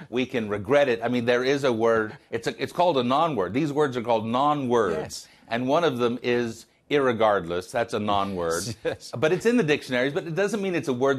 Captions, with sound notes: IS THERE SUCH A WORD AS IMPACTFUL. [LAUGHTER] >> ALMOST ANYTIME SOMEONE